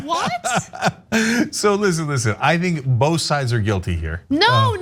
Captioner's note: laugh